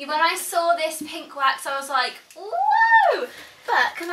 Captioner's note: screams joyfully